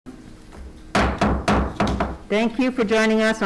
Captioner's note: gavel bangs